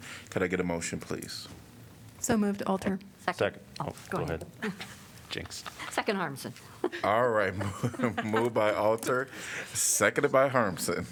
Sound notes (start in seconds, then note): 7.4 laughter